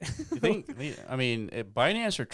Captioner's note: laughs